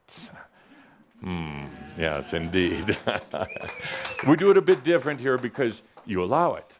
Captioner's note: a couple of claps and a whistle